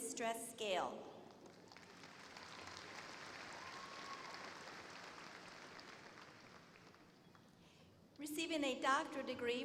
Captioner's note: applause